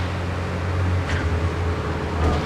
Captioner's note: car engine roaring